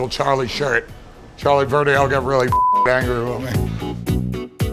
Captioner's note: beeping; casual upbeat music